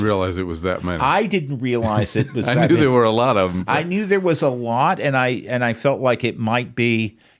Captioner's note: laughs